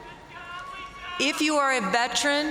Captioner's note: crowd members shouting